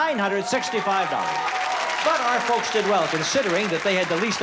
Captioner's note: cheering and applause